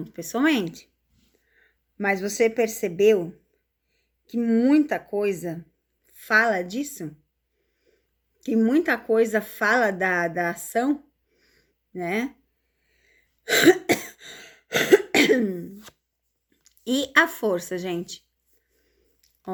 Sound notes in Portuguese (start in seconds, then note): 11.5 limpando a garganta; 13.4 tosse